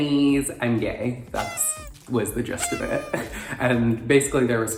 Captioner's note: party horn honking